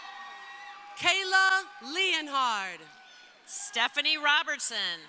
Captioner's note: crowd cheering